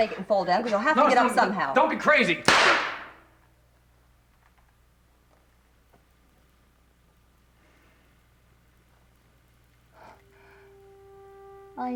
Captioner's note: gunshot